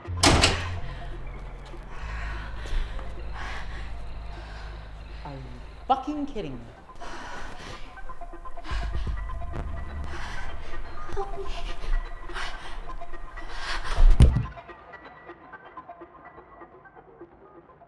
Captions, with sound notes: (door slamming) (Jamie panting) - Are fucking kidding me. (suspenseful music) - Help me. (Jamie thudding)